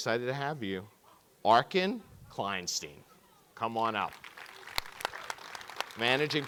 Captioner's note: audience clapping